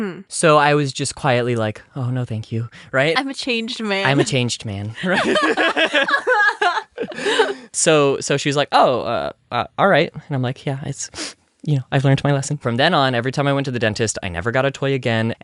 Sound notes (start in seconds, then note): 11.1 sniff